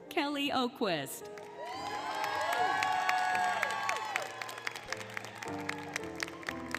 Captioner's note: applause, Cheering, Music